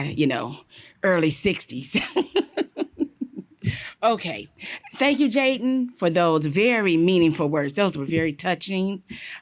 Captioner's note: laughter